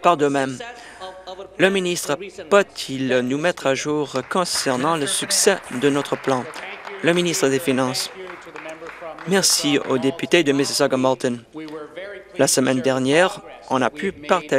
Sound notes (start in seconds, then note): 6.9 applause